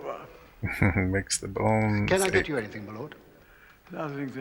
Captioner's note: chuckling